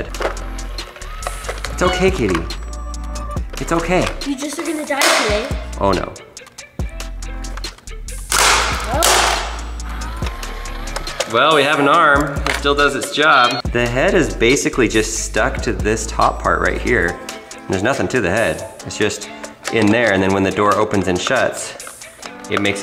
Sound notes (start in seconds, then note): 0.3 gears turn; 8.2 plastic cracks; 10.2 gears turn; 13.4 cat meows